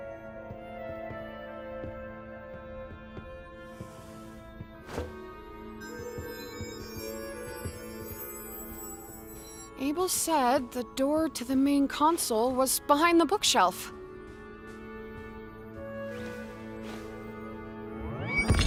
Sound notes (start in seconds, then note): 5.8 orb shimmering